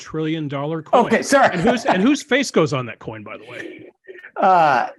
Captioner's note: laugh